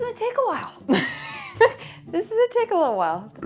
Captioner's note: chuckles